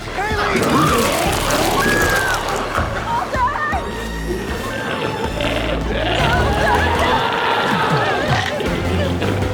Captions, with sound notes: - Chalee! (Chalee screams) - Walter! (glowzie roars)